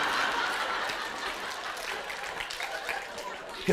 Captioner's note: laughter; applause